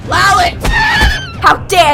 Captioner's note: smack; Lalit neighs